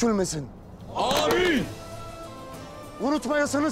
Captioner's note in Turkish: Hep bir ağızdan; El vurma sesleri